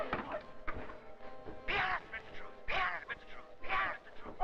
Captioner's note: voices